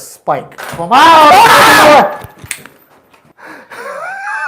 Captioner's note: screams in fear